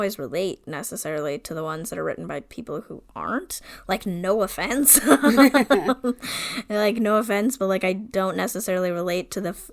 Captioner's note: laughs